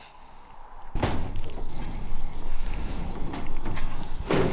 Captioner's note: building rattling